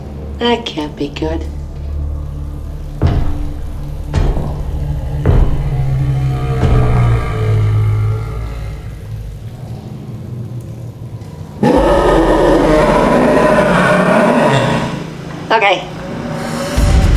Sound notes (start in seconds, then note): 0.0 large ominous growl off-screen; 11.5 angry growl; 17.0 angry growl